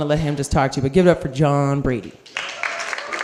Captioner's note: cheers